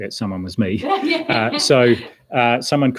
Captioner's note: laughs